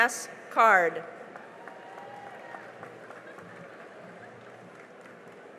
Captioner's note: cheering and applause